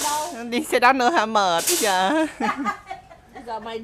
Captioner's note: laugh